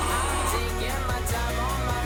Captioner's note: whale noises are still ongoing; whale noises end